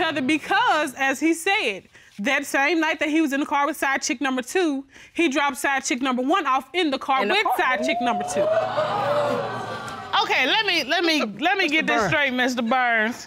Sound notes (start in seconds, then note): 7.3 audience gasping